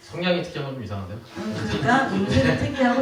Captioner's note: laughs